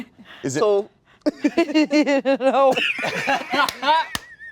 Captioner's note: laughing